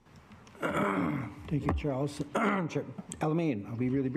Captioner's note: clears throat